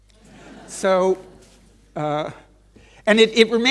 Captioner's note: audience laughing lightly